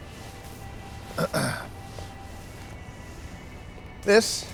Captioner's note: Lloyd clears throat